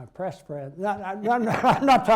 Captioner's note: laughter